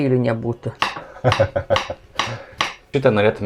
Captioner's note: laughs in Ukrainian